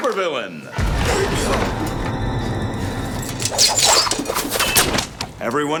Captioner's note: gasps